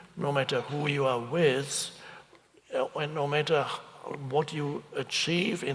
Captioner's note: none